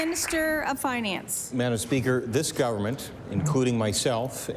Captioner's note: applause